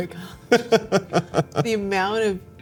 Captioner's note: laughter